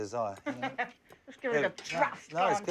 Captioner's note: laughs